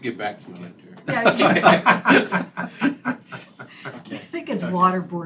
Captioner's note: laughter